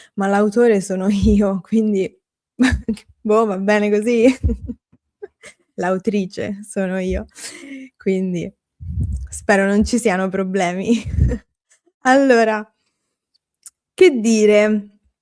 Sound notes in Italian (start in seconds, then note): 4.2 risate